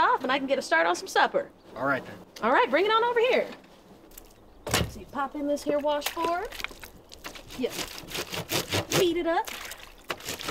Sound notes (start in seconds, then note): 7.9 clothes grating